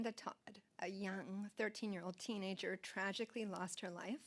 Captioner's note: speaking French